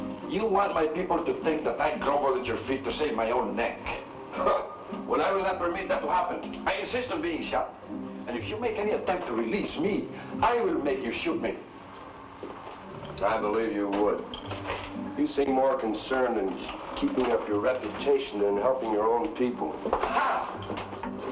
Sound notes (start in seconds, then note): 4.4 laughs